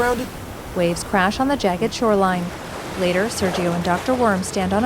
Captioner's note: water splashing